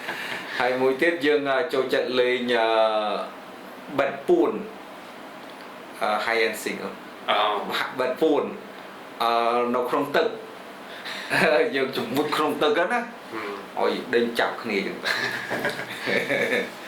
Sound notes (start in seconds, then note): 0.0 laughs; 11.2 laughs; 15.0 laughs